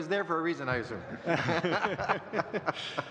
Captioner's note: laughter